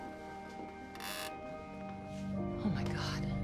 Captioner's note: floorboards creaking